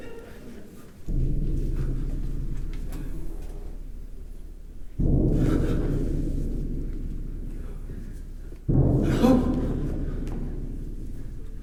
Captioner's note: the ground shakes with loud thuds